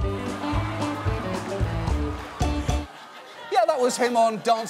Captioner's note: upbeat music playing; studio audience laughs